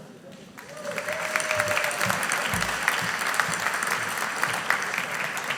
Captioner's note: audience applauding